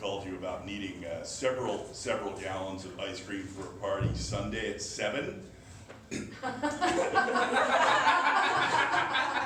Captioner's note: ahem